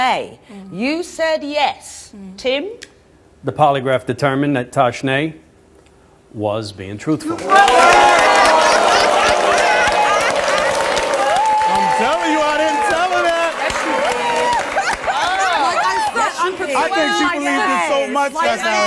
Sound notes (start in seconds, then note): 7.3 audience applauds and laughs; 13.6 laughter